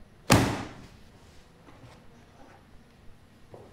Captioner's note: banging